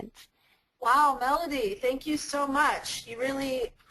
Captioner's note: voiceover